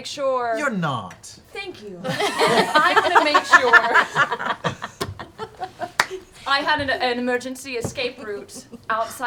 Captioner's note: laughs